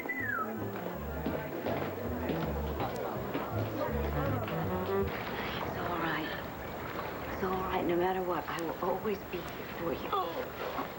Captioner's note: kevin whistles